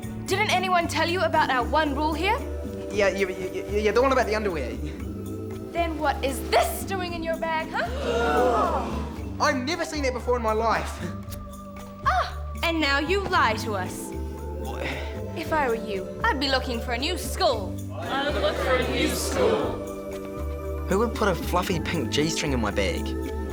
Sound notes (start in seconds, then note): 7.7 everyone gasps